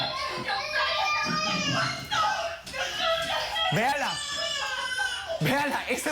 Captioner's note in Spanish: Llanto del niño; Gritos de ella